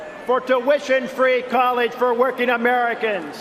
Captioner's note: cheering and applause